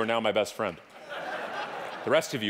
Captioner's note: audience laughing